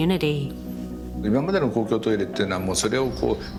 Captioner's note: speaking japanese